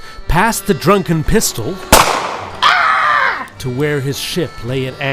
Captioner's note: gunshot, followed by scream